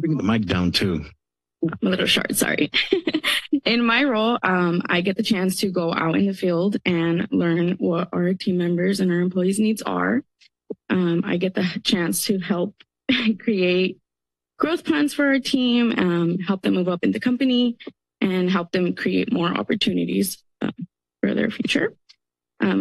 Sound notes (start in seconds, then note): 2.7 laughs